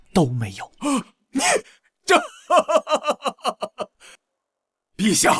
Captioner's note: laughing with anger and mockery